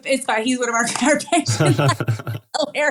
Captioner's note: laugh